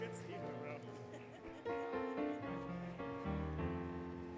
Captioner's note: laughter, Music